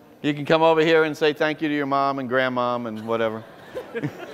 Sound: laughter

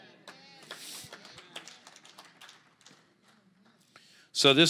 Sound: congregation applauds

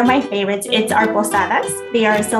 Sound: speaking Spanish

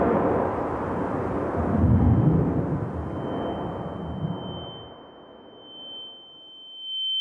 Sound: ringing as in ringing in your head

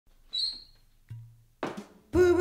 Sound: sneaker squeaks and bottle pops open

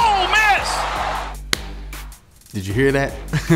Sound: crowd roaring; fist slapping into palm

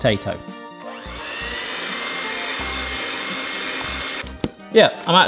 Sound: bright music; mixer whirring

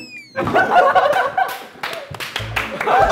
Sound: members keep laughing

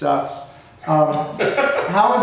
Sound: laughing

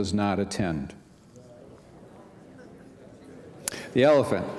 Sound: audience speaking

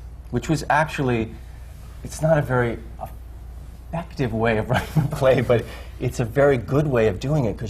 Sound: laughs

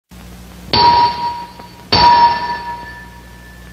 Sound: hammering

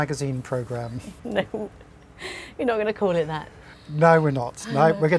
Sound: laugh

